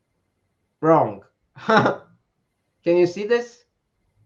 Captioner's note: chuckles